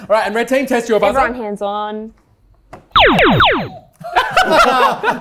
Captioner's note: laser noises